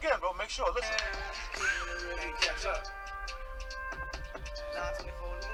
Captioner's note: recording playing back